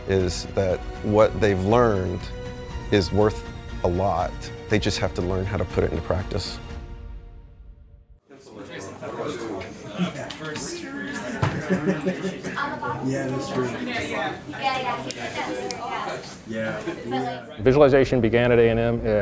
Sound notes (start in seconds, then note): 8.9 students chatting